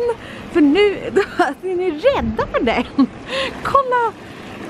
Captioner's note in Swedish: skratt